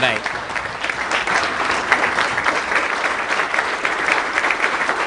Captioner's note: applause